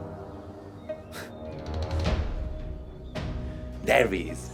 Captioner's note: laughing